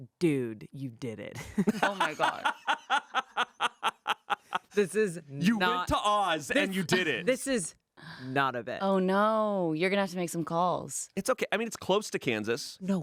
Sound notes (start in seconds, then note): 1.5 laughing